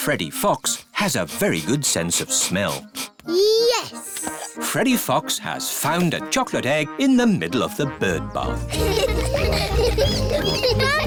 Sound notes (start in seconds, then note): 0.5 sniffs; 8.6 all laughing